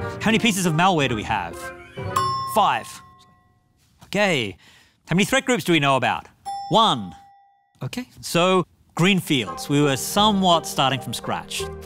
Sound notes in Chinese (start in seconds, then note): 2.2 鈴聲; 6.4 鈴聲